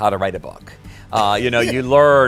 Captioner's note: laughs